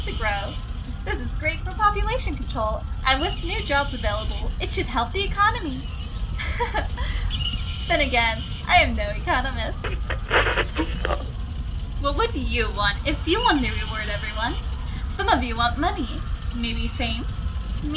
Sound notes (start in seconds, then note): 5.8 laughter; 9.7 radio scans quickly through channels before stopping